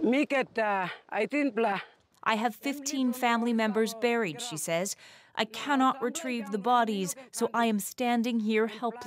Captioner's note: speaking alternate language